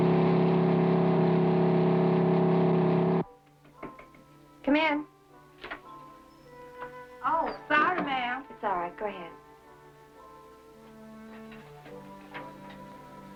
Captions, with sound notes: (light knocking) - Come in. - Oh sorry ma'am. - It's all right, go ahead. (jazz music)